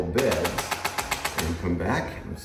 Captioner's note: tool popping